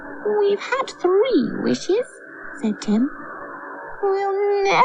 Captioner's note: none